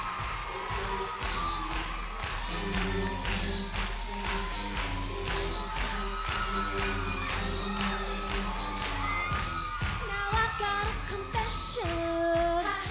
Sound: cheers and applause

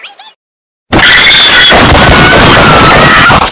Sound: loud and gun shots

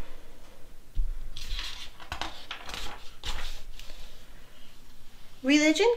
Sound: page flips

